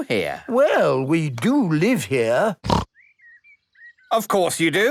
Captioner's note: snorting